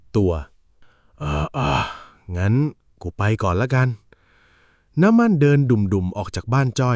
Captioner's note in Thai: เสียงถอนหายใจ